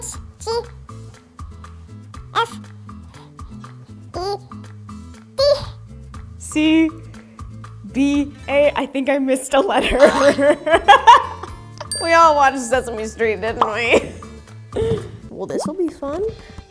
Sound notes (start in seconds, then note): 5.7 back to normal pitch voice; 9.9 laughs; 11.8 bell dings; 11.9 spring bounces; 13.9 bubble pops